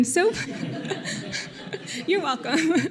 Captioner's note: audience chuckling